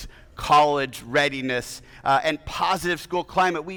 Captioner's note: none